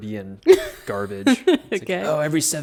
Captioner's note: laughs